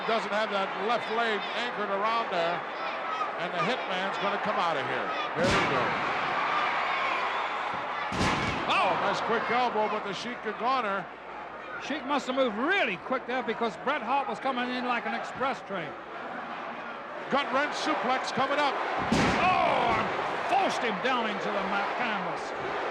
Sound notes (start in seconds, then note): 6.2 crowd yelling